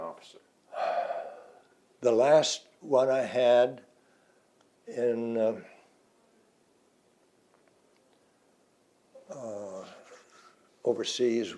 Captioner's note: breaths out